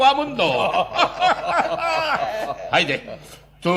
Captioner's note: laughs